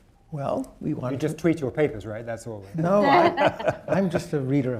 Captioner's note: laughter